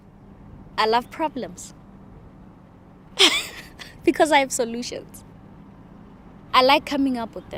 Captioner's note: laughs